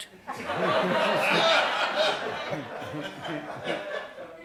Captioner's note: laughter